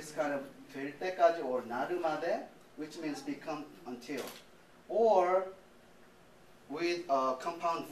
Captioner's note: non-english speech